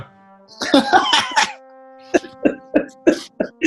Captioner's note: laughing